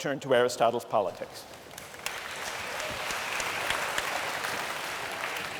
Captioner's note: applause